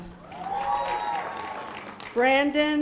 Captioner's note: audience applause